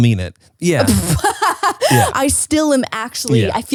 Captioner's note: laughs